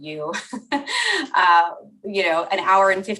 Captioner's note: laughs